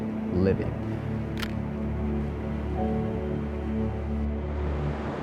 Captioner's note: camera clicks